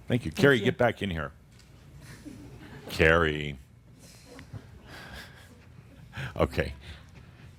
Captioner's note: Adamus chuckles